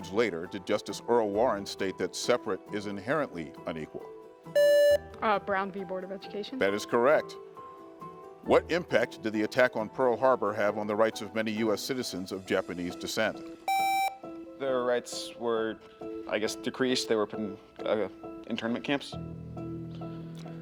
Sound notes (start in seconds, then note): 4.5 buzzer beeps; 7.1 gentle music; 13.6 buzzer beeps; 19.0 gentle music